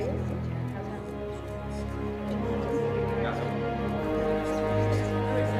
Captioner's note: group chattering